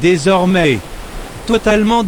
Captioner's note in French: bruit de vagues